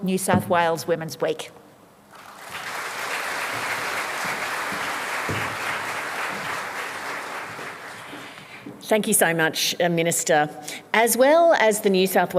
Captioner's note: applause